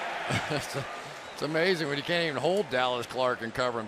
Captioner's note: chuckles